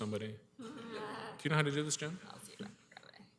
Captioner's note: laughter